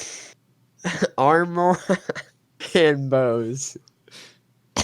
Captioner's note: laughs